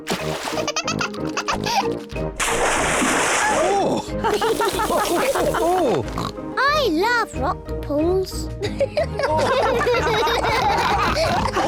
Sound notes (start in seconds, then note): 4.2 all chuckle; 8.6 all giggle